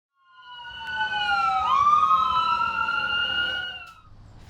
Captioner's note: sirens wailing